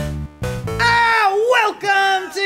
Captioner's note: yelling